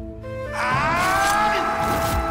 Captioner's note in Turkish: Arıkbuka bağırıyor